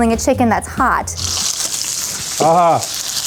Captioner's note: oil sizzling